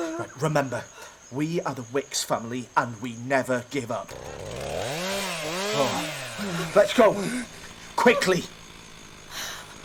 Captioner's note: the sound of a chainsaw has arrived